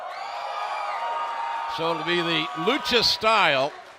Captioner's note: cheers and applause